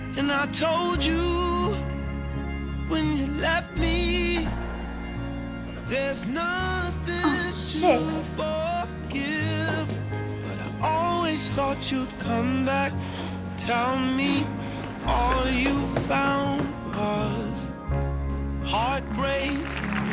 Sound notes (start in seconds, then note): 13.2 Kevin sighing; 19.1 hands clapping